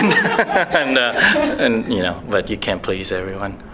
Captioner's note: laughs